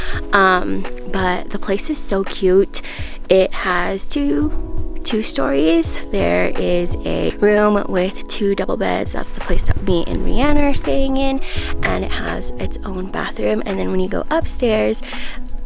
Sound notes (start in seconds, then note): none